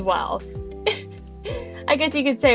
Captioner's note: giggles